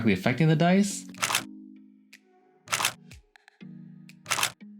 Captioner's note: camera clicks